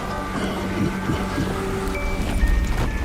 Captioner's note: chuckles evilly